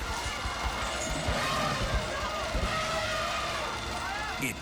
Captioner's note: elephant trumpets